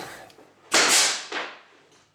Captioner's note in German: Lautes Klicken